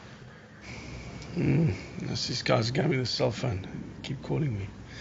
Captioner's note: moans